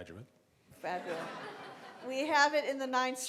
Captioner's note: laughing